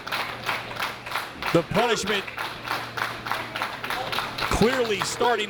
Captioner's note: applause